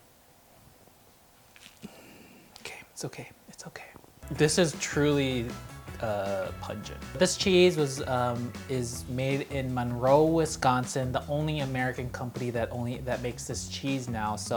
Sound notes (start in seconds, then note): 1.7 exhales